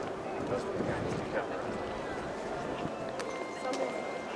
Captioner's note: people chattering